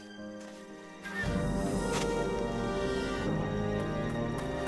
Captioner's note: none